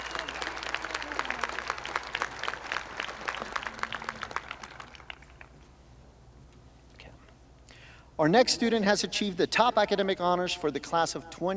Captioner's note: applause